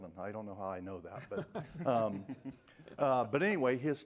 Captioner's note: chuckling